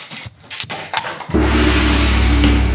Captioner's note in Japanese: 効果音